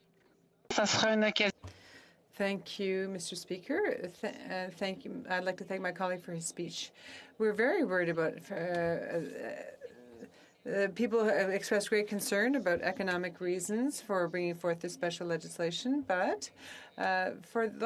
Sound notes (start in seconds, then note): 1.3 speaking French